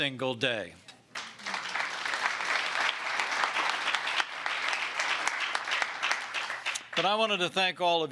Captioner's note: applause